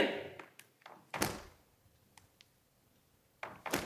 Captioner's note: snapping